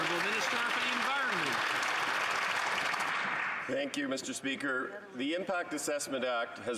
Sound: some Applause

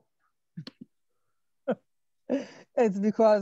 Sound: laughs

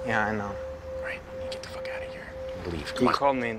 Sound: quietly

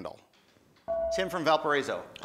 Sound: buzzer

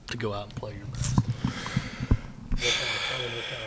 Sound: exhales

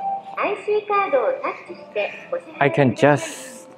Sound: machine speaks in japanese

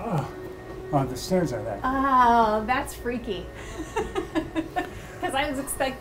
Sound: laughs

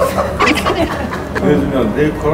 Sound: laughs

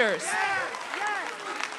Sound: applause

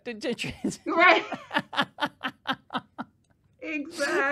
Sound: laughing

